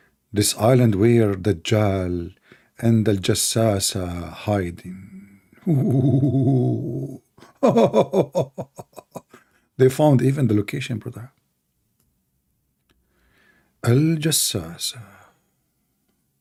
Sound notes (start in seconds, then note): 7.6 Ketawa